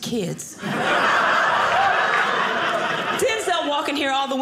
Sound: audience laughing

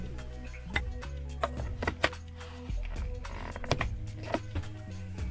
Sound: lid clicks on

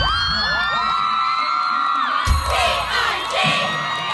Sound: cheering

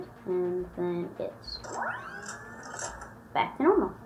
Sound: mechanical whirring

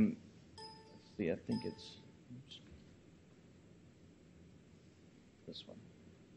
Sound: computer dings

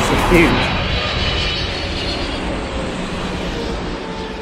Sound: plane passing directly overhead

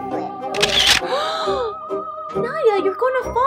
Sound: mom gasps

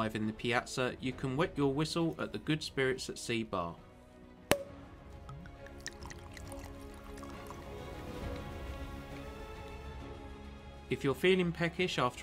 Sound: pouring drink, clinking glasses

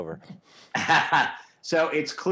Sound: laughs

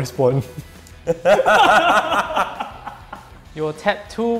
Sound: players laughing

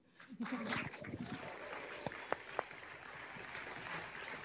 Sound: audience applauding

